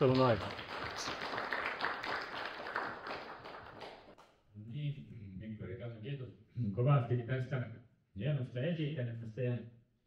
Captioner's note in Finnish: Aplodeja